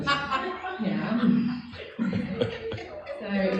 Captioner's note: laughing